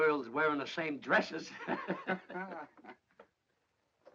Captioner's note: laughing